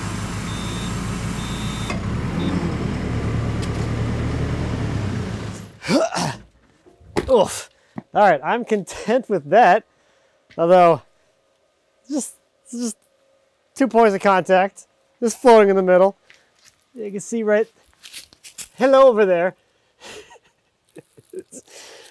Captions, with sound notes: (telehandler beeping) (grunts) Oof. All right, I'm content with that, although just two points of contact, just floating in the middle. You can see, right? Hello over there. (chuckles)